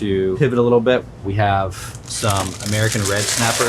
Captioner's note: plastic wrap crinkling